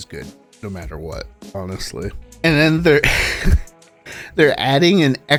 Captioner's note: laughs audibly